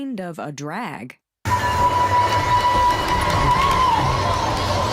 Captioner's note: loud train whistle